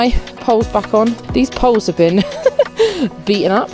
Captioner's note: laughs